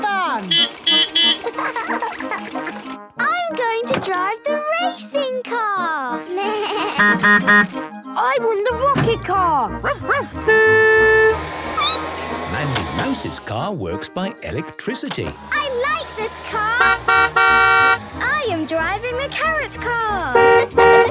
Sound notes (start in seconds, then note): 0.5 beeping; 1.3 laughing; 5.9 bleating; 7.0 honking; 9.8 barking; 9.9 squeaking; 10.2 honking; 16.6 honking; 20.3 honking